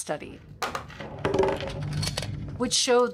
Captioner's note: objects clunking